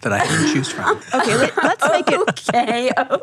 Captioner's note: laughing